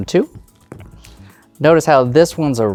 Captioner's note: dice rolling